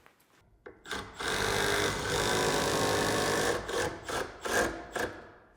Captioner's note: screw drill whirring